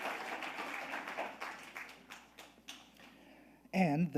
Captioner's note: audience applauding